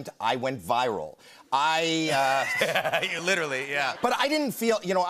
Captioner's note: laughter